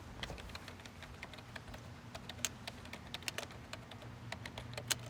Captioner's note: keyboard clicking